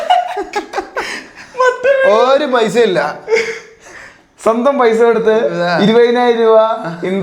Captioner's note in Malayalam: പൊട്ടിച്ചിരി